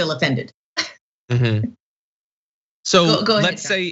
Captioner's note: laugh